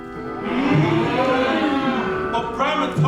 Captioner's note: cow sounds